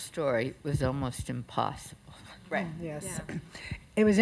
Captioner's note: sounds of agreement